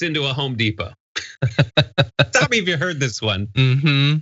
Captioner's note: laugh